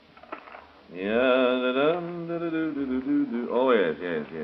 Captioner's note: humming